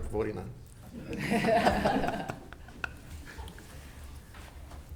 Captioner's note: members laughs